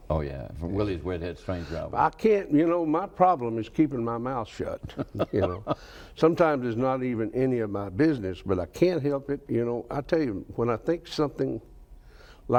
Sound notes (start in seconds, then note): 4.7 laughs